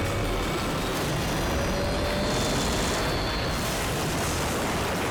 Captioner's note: helicopter crashes